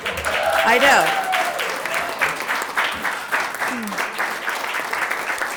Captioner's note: audience clapping